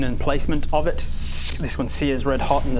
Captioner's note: sssssk!